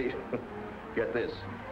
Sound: Dan chuckles

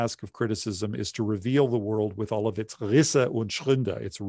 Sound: speaking german

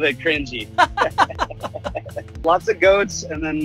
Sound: laughs

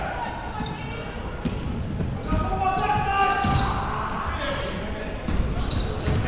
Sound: coaches and players yelling

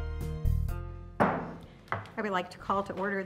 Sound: banging

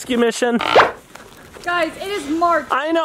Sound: pop sound

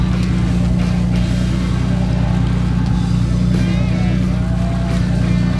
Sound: helicopter whirs overhead

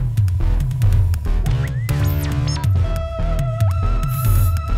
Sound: dance music; bleet whirring

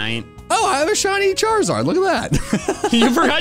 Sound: laugh

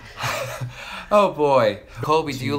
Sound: laughs

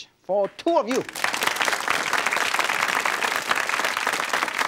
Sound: audience claps

